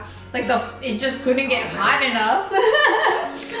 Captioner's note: laughs